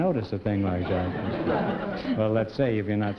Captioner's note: laughter